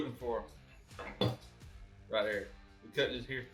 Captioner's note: knife thuds